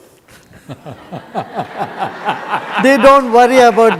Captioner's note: audience laughs